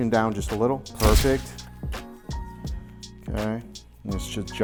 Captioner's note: shutter clicks